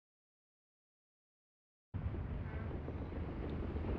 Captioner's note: sounds of inside ship